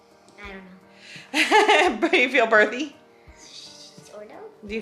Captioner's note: laughs